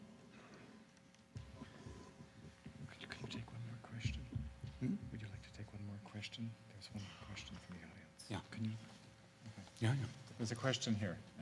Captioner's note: whispering